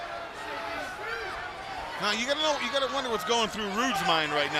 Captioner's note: crowd chatter